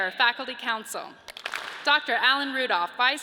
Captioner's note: audience claps